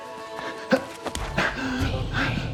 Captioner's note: a capella choral music; grunting